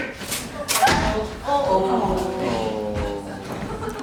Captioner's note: thump sound